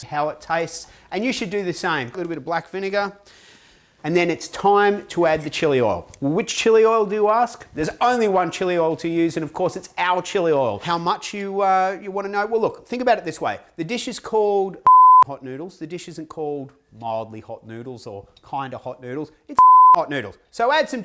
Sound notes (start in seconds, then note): 14.8 beep; 19.4 beep